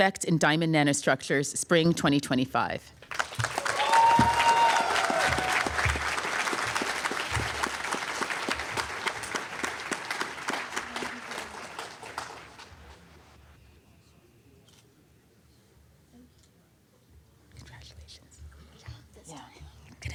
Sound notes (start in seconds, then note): 3.3 applause